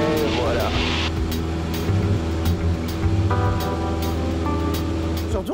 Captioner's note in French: moteur